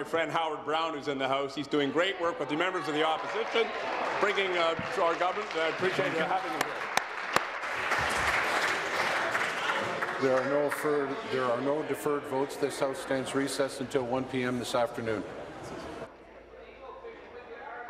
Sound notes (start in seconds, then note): 11.9 applause